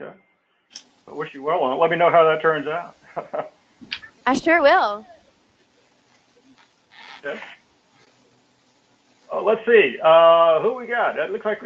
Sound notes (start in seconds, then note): 3.0 laugh